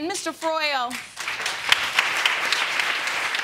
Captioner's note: audience clapping